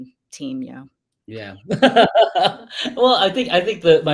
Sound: laughs

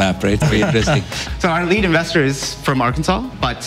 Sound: laughs

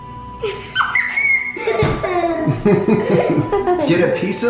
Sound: laughing

